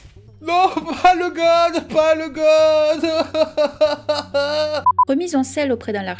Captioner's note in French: hurlant